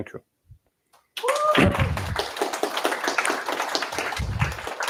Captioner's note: applause